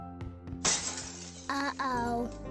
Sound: crash

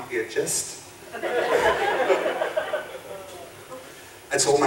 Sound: audience laughing

